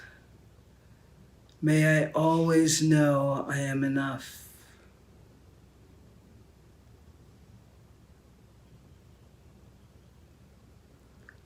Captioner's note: silence; silence